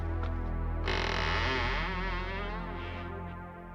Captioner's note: door creaking